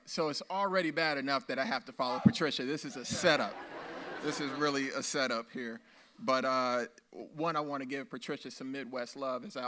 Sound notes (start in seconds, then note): 2.9 audience laughs